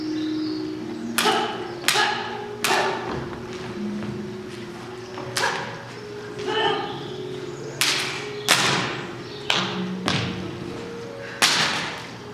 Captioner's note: swordfighting sounds over reflective music